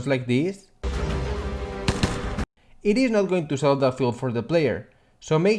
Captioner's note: weak gun sound